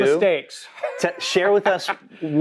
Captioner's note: laughs